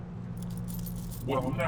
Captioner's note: coins clinking